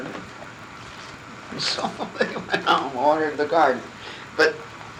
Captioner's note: laughing